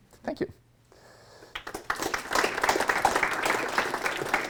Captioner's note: applause